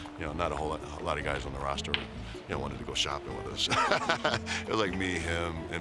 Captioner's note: laugh